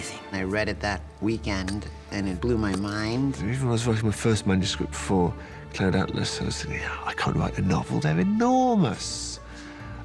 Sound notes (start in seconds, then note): none